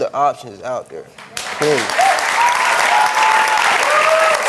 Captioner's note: audience cheering